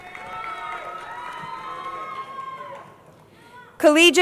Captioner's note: crowd cheering